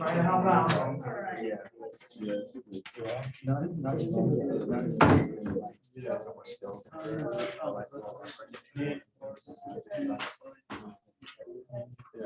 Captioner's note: background Discussion